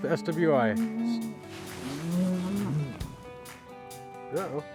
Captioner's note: cattle moo